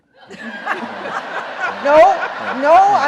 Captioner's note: justices and audience laughing